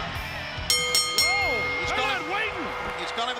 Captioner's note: bell ringing